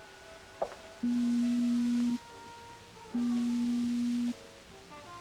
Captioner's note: beeping